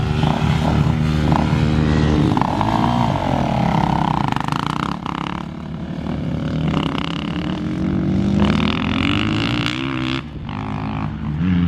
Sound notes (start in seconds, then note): 0.7 engines humming